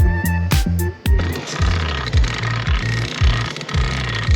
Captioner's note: mast clicking